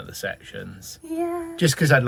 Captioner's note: doubtfully